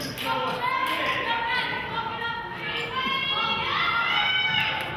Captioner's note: players hollering